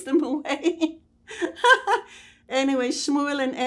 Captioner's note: laughing